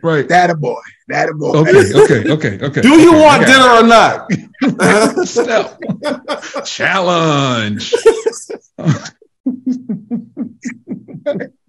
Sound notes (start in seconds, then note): 4.2 all laugh; 8.0 all laughing